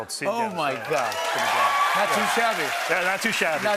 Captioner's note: cheers and applause